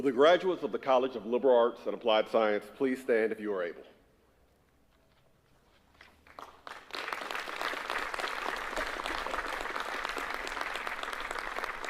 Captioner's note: applause